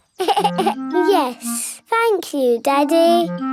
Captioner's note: giggles